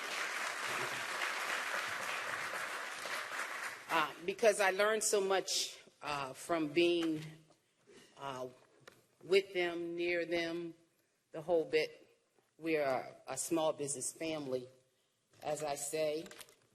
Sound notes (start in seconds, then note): 3.8 applause